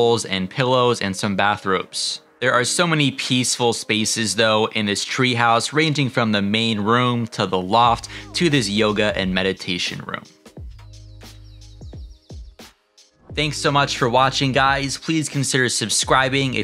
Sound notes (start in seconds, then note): 10.7 gentle music continues; 10.8 birds chirping